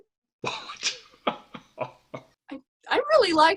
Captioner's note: laughs